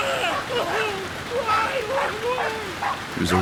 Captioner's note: yelling